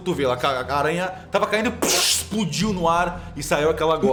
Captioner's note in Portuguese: pshh